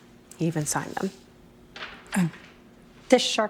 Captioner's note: paper rustling